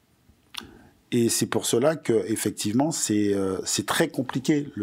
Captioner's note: non-english speech